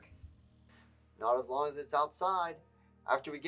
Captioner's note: on phone